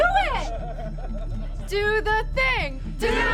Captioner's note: crowd laughs